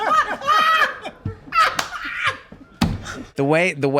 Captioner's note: group laughs